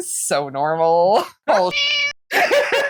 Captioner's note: meow